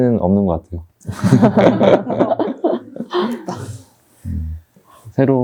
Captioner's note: everyone laughs